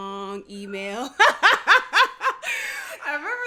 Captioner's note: laughs